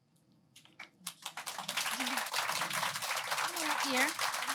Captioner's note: applause